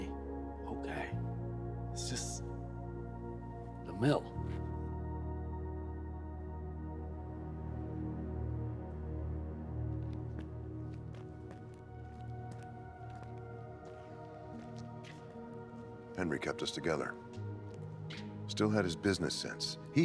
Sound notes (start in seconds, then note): 6.7 eerie music; 13.0 footsteps tapping